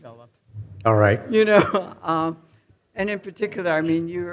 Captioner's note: chuckles